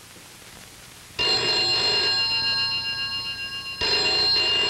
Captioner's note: phone rings